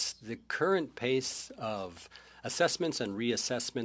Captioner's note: speaking French